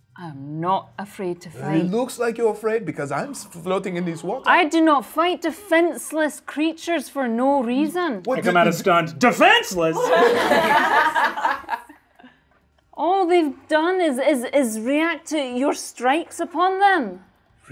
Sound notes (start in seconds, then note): 9.8 all laughing